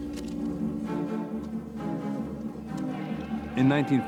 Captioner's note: dramatic music; people shouting